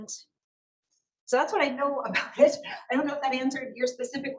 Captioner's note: laughs